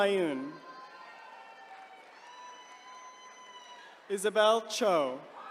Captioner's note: attendees cheering